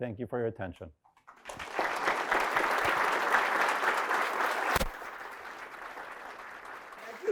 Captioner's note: applause